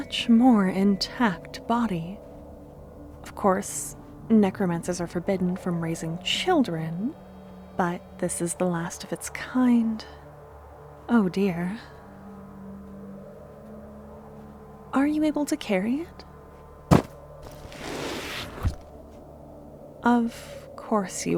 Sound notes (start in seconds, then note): 14.6 lifting sound